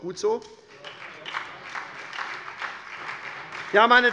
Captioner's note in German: Beifall bei der SPD